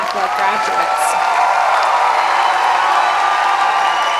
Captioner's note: cheering